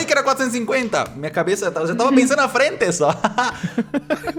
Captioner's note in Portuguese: Risadas; risos